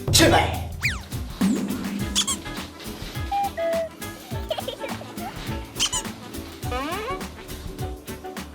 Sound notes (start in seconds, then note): 3.1 laugh